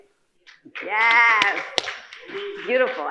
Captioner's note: audience applauding